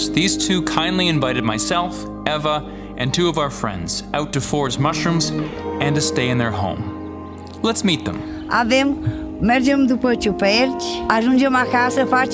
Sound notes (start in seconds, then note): 8.6 speaking Romanian